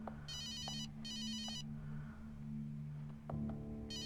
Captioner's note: phone ringing